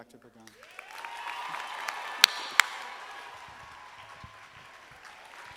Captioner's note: audience applauding